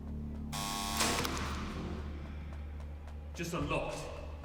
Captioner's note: door lock beeping